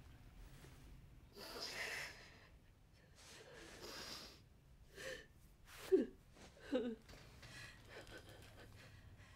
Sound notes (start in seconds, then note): 1.4 deep sniffle; 5.6 soft crying